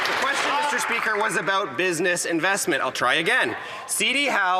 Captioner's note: some Applause